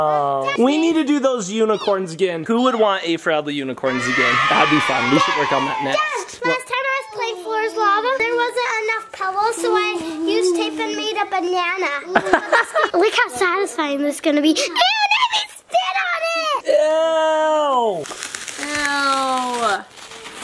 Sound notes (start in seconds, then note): 12.1 person laughing; 17.9 tape ripping